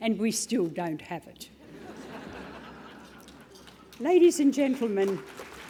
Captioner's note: laugh; applause